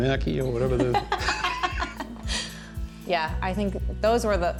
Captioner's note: laughing